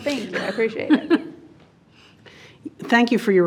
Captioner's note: laughing